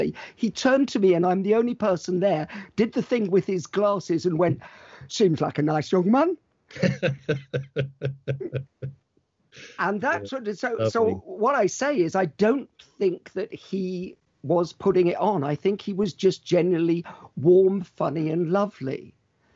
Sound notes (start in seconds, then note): 6.7 laughs